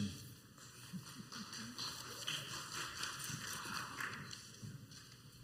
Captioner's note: scattered applause